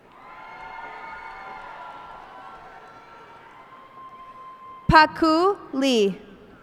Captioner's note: cheers and applause